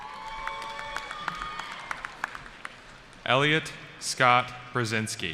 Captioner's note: cheering